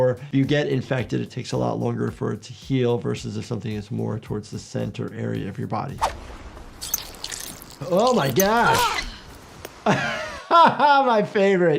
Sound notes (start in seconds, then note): 6.0 blood sloshes; 9.8 laughs